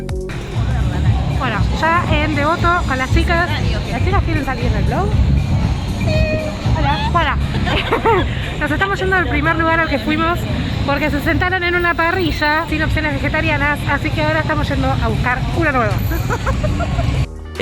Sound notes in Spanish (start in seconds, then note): 7.5 risas; 15.9 risas